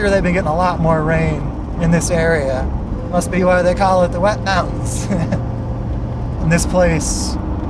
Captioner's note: laugh